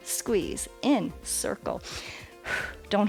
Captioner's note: exhales